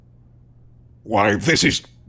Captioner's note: none